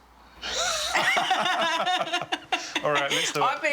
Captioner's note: laughter